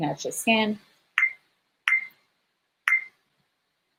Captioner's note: beeping